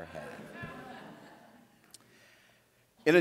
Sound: laughter

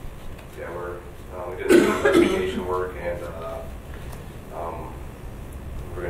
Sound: coughing drowns out speaker

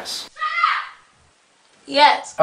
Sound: woman Yelling

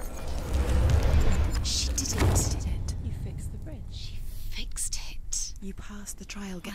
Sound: whispering

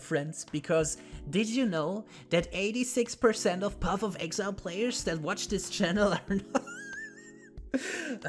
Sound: laughs

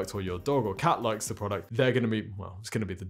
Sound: none

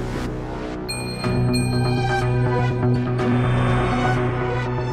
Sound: dramatic music; stars gleaming

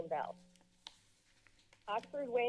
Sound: rustling sound

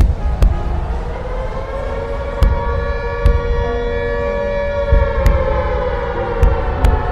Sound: sirens wail; bombs explode

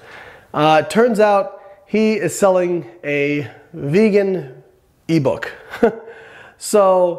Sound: scoffs

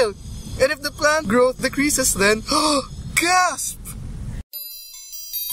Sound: gasp

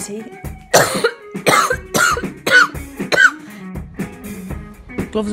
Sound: coughs

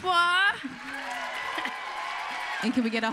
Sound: applause

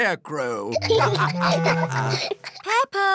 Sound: laughter

